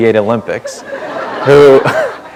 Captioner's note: laughter